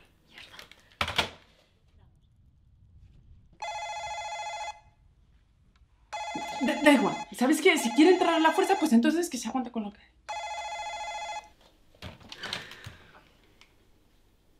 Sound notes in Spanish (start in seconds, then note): 3.3 Suena el telefonillo de nuevo; 10.3 Sigue sonando el telefonillo